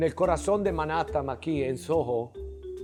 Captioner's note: speaks Italian